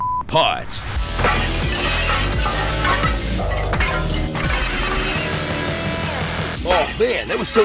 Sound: pottery shatters

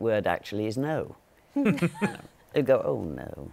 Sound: laughter

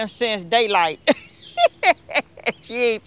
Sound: laughs

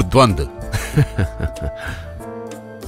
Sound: laughs

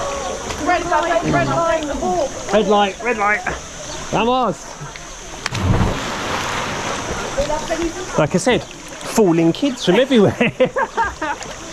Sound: laughter

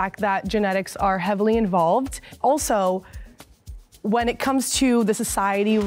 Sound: none

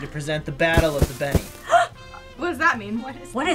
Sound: gasps

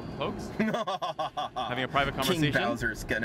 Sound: laughs evilly

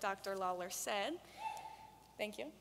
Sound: audience cheering

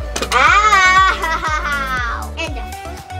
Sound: laughs

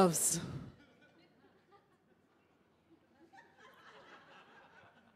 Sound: audience laughing

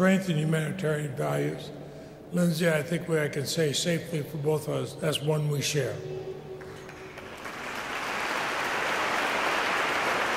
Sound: applause

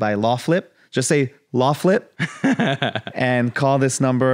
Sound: laughs

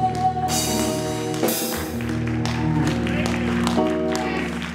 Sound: audience applauding

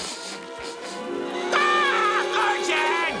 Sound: screaming

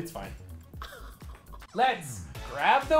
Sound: groans

